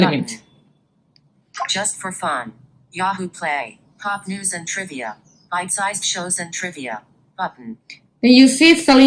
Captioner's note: VoiceOver reading elements on the screen